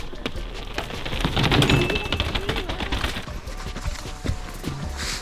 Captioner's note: wheels squeaking